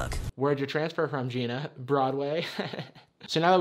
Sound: snickers

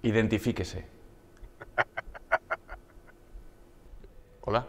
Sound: laughter

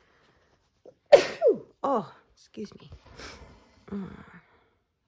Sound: sneezes

